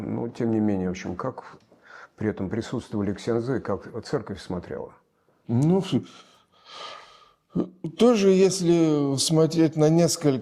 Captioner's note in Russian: вздыхает